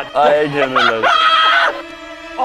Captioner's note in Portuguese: Risada maniaca